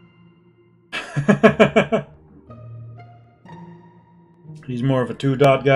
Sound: laughs

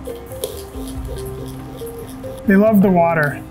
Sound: sound of water bottle spraying

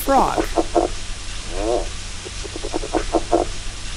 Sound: frog croaks

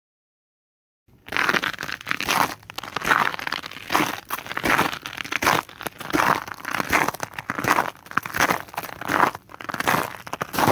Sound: sound of paces on a snow

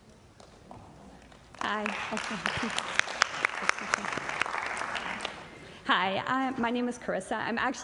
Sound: applause

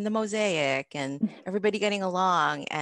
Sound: woman laughing

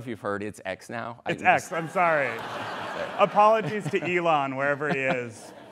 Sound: laughter

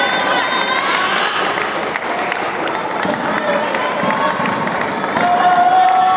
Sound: applause

